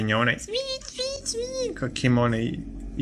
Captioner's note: sound of rat dying